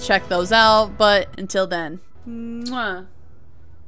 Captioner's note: kiss